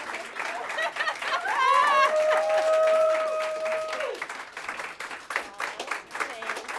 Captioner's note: applause